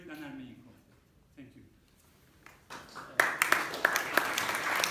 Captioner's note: applause